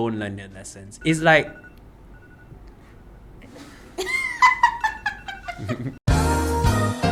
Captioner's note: alarms goes off